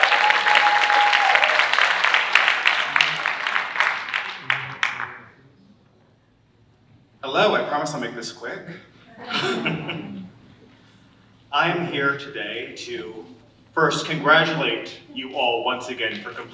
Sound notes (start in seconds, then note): 9.0 audience laughing